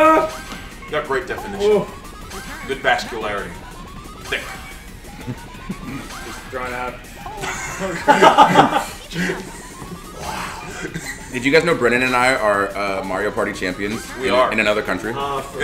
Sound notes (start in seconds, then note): 7.1 laugh